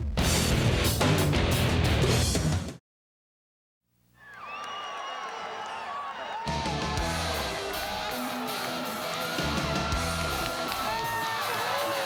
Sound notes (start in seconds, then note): 4.2 crowd cheering; 4.8 upbeat rock music